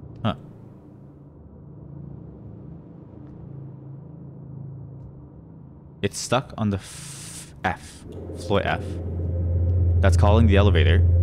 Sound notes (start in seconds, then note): none